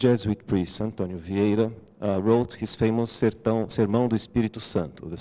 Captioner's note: non-english